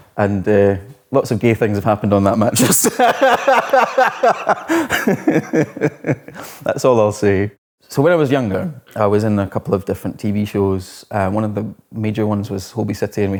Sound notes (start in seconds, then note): 2.6 laughs